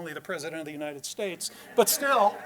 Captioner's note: laughter